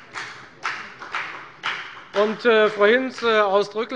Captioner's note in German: Beifall bei der FDP